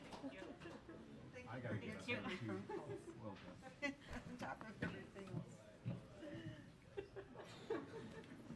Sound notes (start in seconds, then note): 0.9 overlapping chattering